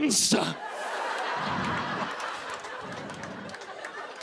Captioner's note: laughter